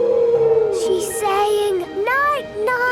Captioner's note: whale calling